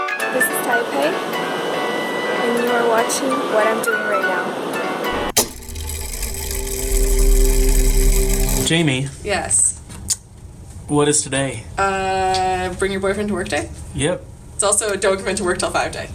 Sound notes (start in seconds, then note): 5.1 mechanism whirring